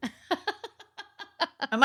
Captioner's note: laughing